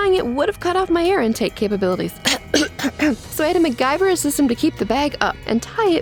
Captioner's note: cough cough